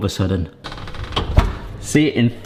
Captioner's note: door creaking